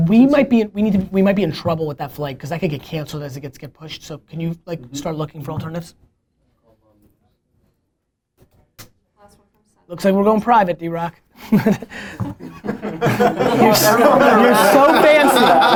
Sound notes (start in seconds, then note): 11.4 laughter